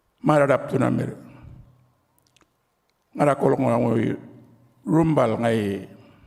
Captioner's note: continues to speak native language